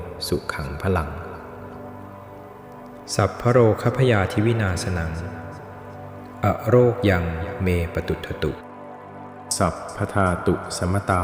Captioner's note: chanting